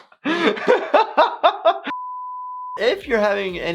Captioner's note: laughs